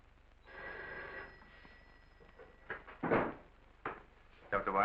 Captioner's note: phone ringing